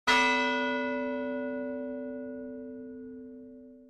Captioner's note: bell dings